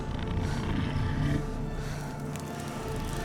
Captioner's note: dragon growling